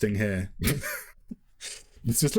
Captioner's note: laughs